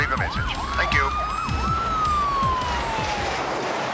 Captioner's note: sirens wailing; tires screeching